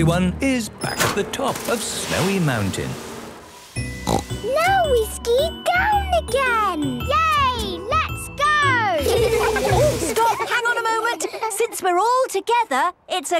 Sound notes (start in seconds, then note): 4.0 snorting; 9.0 laughter